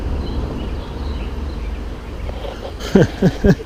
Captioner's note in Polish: śmiech